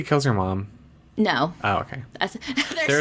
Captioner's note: laughs